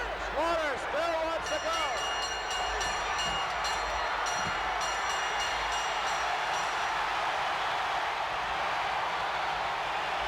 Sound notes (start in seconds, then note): 1.4 bell rings; 7.6 crowd cheers